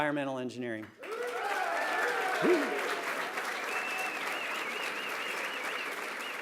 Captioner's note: applause, cheering